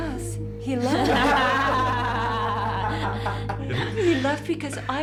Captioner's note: laughter